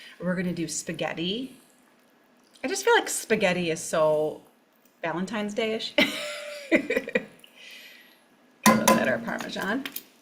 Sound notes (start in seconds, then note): 6.8 laughs